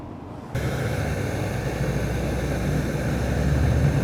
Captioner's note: hissing